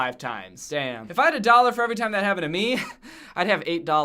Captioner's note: chuckles